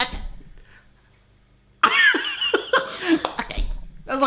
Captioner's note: laughs